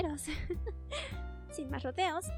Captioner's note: laughs